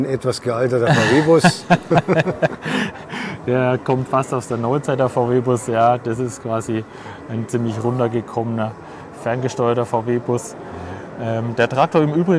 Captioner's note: laughs